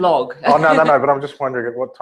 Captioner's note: laugh